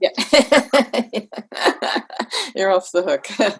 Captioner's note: laughs